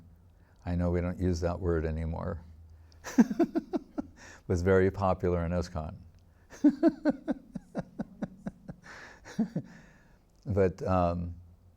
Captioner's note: laughing